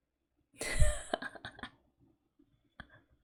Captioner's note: laughs